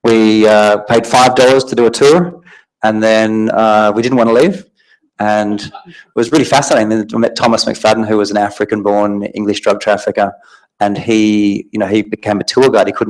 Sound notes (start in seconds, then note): 5.1 audience laughing